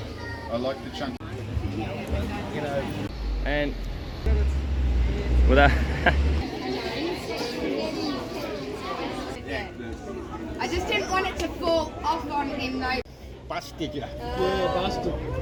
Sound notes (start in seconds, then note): 5.6 laughing